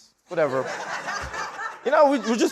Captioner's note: laughter